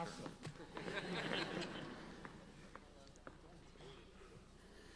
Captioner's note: audience laughs